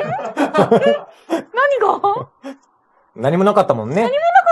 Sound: laughs

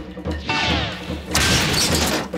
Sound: crash

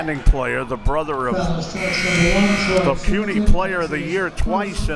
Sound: buzzer

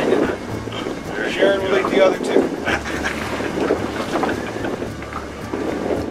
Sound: laughs

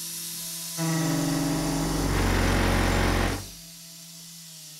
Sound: angry router noise

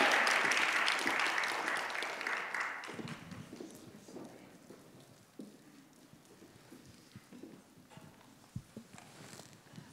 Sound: audience applauds and cheers; footsteps

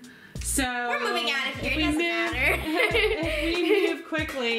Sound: laughing

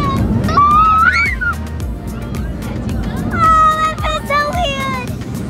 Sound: screaming

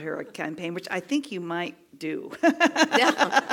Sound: laugh

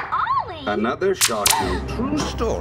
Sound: both gasp

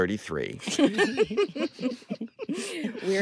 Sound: all chuckling

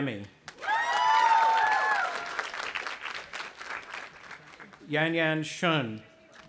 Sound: audience applauding and cheering

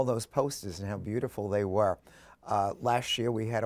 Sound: none

